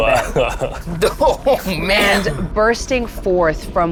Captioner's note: group laughs